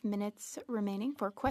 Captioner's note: speaking French